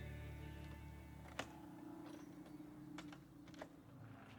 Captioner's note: lock clicks